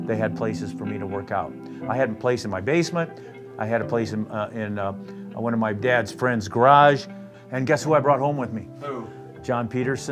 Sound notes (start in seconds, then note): none